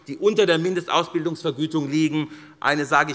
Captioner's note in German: none